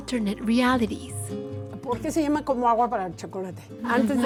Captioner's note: speaking Spanish